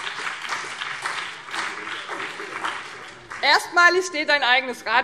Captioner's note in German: Beifall BÜNDNIS 90/DIE GRÜNEN und vereinzelt CDU